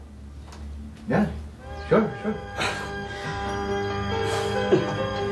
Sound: chuckles

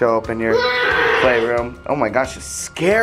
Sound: roaring

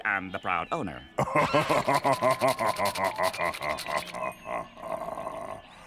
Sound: laughing

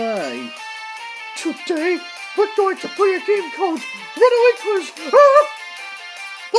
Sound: chuckles

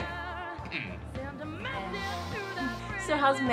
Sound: laughs; coughs

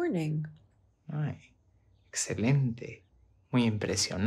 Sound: Tyler speaks Spanish

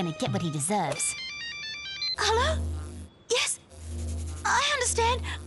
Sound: cellphone ringing

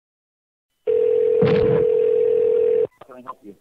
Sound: telephone ringing

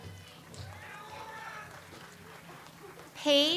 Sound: audience applauds

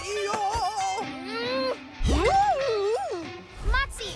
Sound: grunts

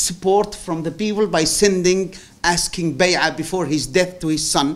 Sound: non-english speech

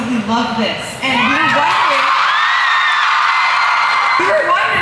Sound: cheers

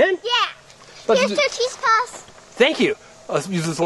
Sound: voiceover

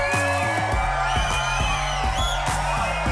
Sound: air horn sounding; cheering

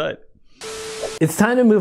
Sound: video clip glitches

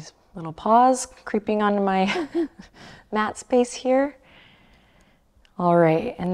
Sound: chuckles

